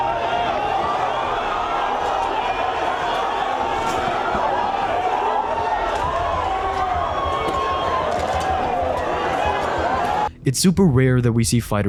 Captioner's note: applause and chaos